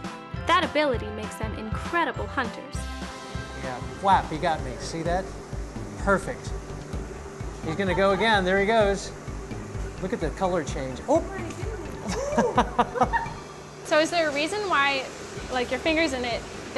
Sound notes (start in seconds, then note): 12.0 laughing